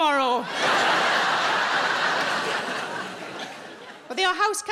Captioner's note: audience laughing